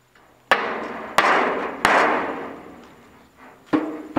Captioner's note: hammering